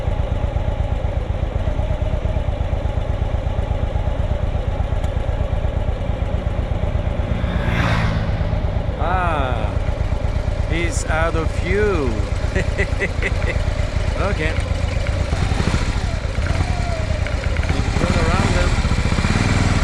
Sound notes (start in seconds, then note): 12.3 evil laughter